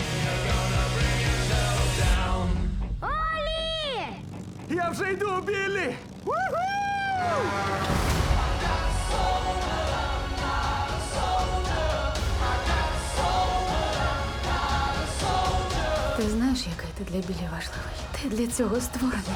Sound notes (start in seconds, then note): 6.9 horn blares